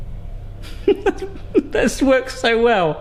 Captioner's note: laughing